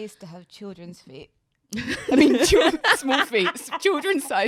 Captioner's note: laughs